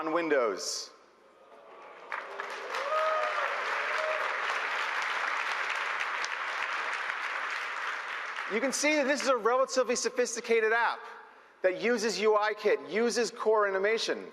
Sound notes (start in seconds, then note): 4.1 applause